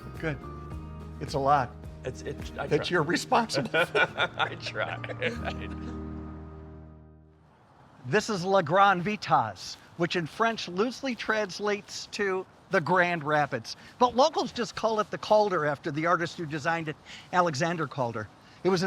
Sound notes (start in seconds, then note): 6.0 laughs